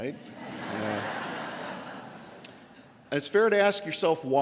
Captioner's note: audience laughter